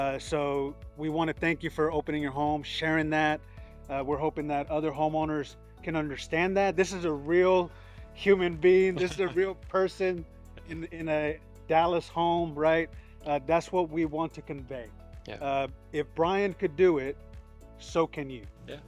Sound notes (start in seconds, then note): 8.9 chuckling